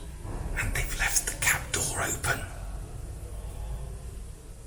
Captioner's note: whispers